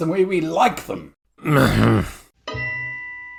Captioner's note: tiredly groans